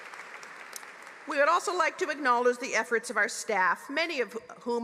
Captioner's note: applause